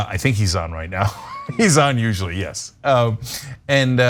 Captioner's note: laugh